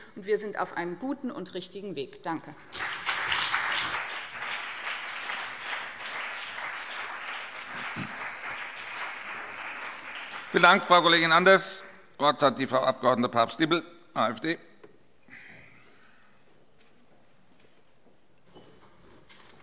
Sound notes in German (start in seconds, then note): 4.3 Beifall BÜNDNIS 90/DIE GRÜNEN und vereinzelt CDU